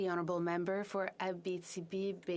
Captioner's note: speaking French